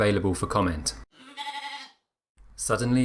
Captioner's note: rogue sheep bleat